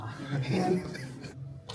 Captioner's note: laughs